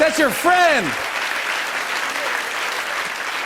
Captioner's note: applause